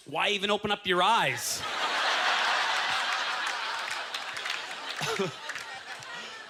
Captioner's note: audience laughter